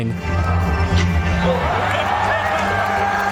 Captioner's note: epic music playing; audience cheering